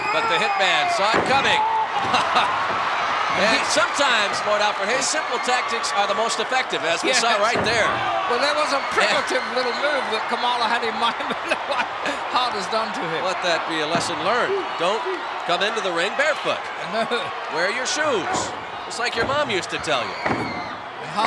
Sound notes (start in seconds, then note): 11.3 laugh